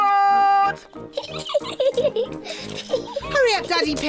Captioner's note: giggling